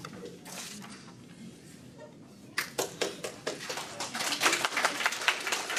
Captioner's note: applause